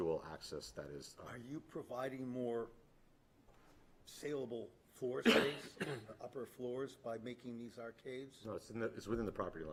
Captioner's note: clears throat